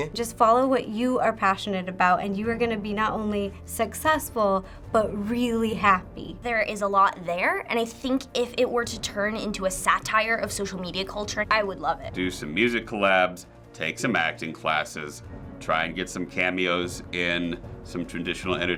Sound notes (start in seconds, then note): none